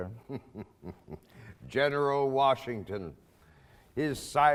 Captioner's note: laughs